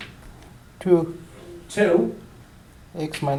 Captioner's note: voiceover